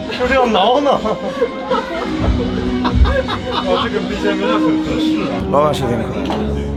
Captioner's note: laughs